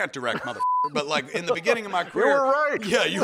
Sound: laughs

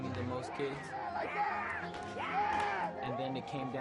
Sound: woman cheering

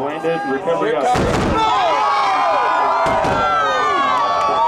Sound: cheering

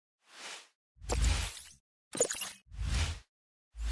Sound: logos swooshing

